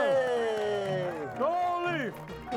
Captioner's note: audience applauding and cheering